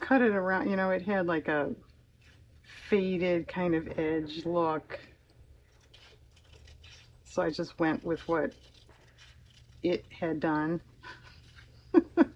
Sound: laughs

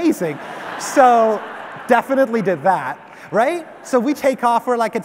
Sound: audience laughs

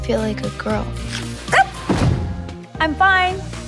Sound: charlotte york exclaims in shock, thuds

